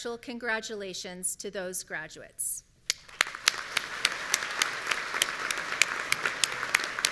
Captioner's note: audience applauding